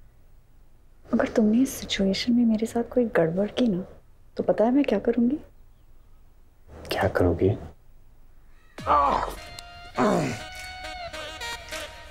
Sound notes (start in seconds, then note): 9.9 Groans; 9.9 Grunts